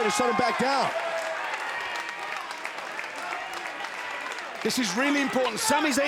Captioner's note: crowd clapping